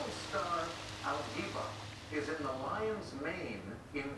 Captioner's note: voice on TV narrating